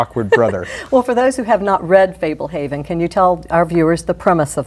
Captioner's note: laugh